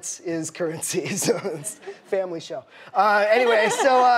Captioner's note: laughing